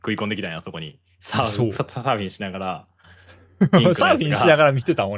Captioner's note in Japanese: 笑い